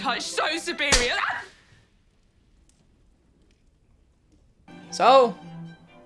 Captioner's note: hand slaps; girl yelps